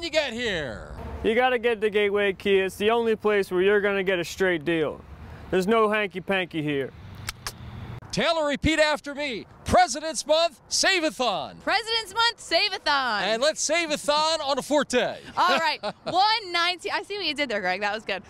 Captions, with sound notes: You gotta get to Gateway Kia. It's the only place where you're gonna get a straight deal. There's no hanky-panky here. (clicks tongue) Taylor, repeat after me, President's Month Save-A-Thon! President's Month Save-A-Thon! And let's Save-A-Thon on a Forte. (laughs) $119, I see what you did there, Greg, that was good.